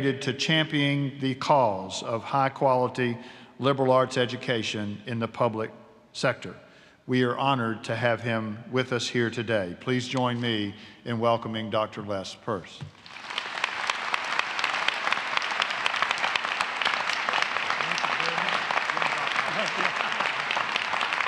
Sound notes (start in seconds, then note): 12.9 applause